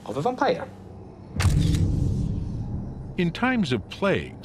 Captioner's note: camera shutter clicks